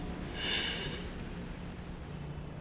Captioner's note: exhales